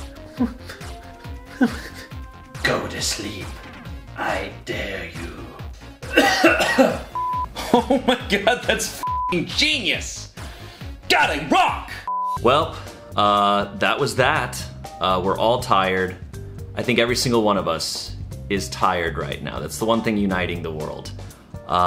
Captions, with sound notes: (whimpering) - Go to sleep. I dare you. (coughing) - Oh my God, that's (beep) genius! God, I rock! - Welp, that was that. We're all tired. I think every single one of us is tired right now. That's the one thing uniting the world.